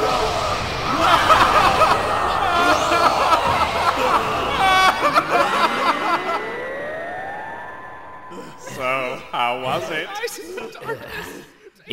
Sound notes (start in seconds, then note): 0.0 Screams of agony from Yamcha and Tien; 0.9 Mr. Popo laughs; 10.1 Heavy breathing and Krillin muttering something about “darkness”